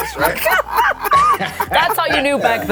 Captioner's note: laughter